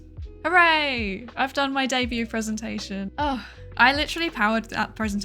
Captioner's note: sighs